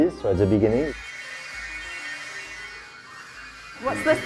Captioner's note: robots trilling